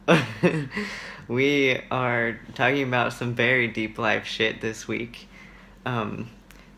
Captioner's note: laughs